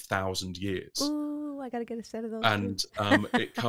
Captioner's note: laughs